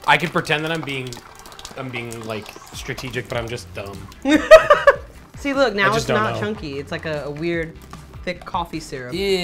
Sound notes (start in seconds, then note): 4.2 laughs